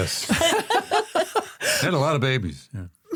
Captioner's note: laugh